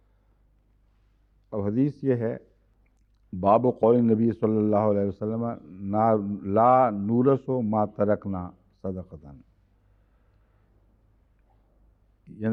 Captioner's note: Arabic